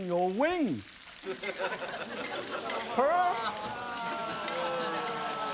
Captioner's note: audience laughing